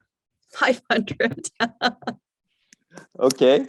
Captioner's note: laughs